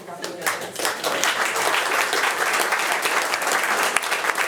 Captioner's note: attendees applauding